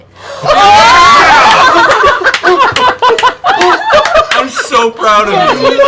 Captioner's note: cheering